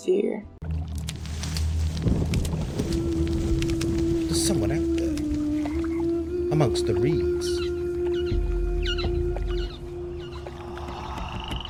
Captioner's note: twigs snapping. eerie fenland quiet. haunting humming melody